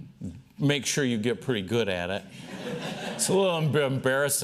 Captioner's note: laughter